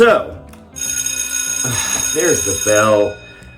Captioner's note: bell rings